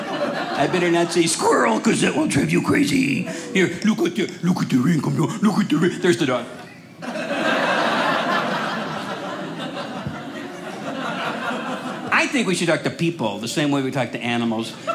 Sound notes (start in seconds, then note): 7.0 audience laughing